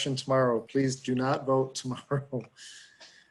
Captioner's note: chuckles